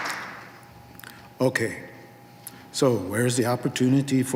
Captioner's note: applause